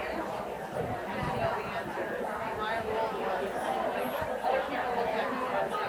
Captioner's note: people chattering continues